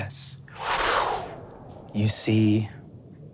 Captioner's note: mimics air whooshing